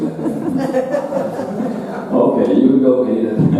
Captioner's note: audience laughing